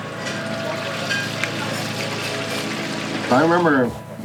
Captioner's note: oil bubbles